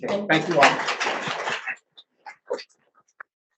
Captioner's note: audience applauds